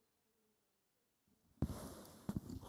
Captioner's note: none